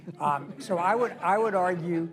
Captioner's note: laughter